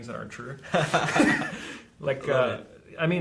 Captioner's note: both laughing